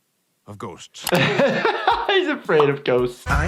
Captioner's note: he laughs